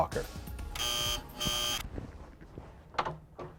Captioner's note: door bell